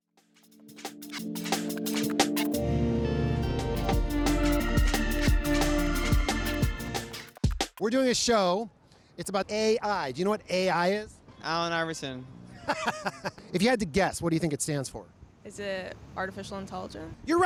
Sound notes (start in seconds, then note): 0.4 chill electronic music; 12.5 correspondent laughs